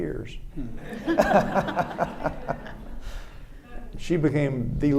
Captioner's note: audience and panel laughing